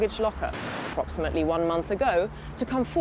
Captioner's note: TV squelching